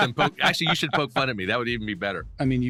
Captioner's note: laughs